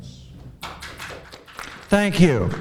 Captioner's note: applauding